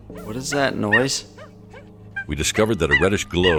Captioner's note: monkeys chirping